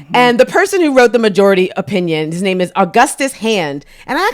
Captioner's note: none